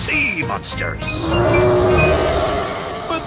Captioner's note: roaring